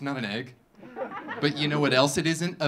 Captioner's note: audience laughing